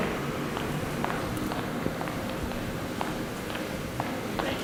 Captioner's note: footsteps walking quickly